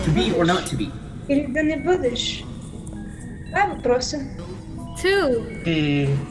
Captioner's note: girl speaking foreign language